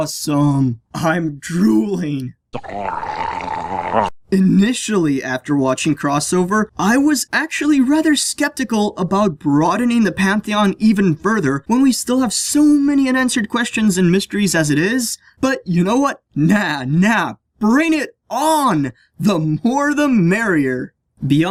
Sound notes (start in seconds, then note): 2.5 SFX: Homer’s drool noise